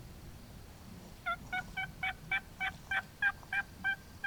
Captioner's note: turkey call